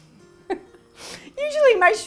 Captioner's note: laughing